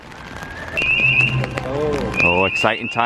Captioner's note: siren Wailing